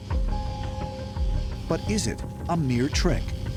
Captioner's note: buzzing